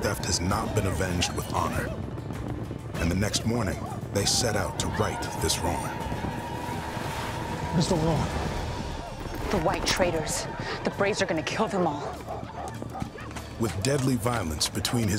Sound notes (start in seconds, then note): 7.2 whooping sounds